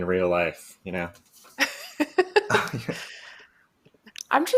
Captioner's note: laughter